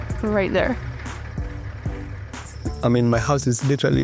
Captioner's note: car engine rumbling